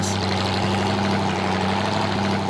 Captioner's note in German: Motordröhnen